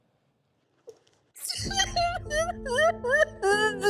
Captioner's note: sobbing